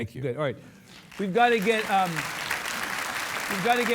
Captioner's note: audience applauding